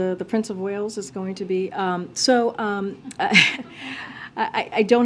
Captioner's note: laughter